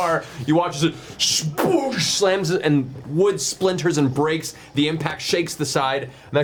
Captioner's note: crashing sound